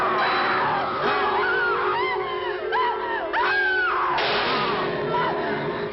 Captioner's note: Priscilla screaming; gunshot firing